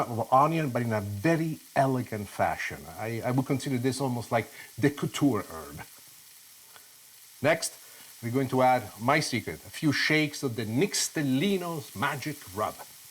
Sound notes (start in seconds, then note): 6.1 sizzling